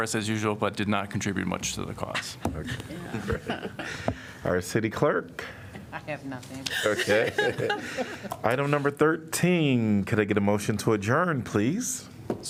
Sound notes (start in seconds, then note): 2.6 laughter; 6.7 laughter